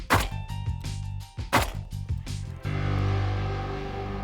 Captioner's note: gunshots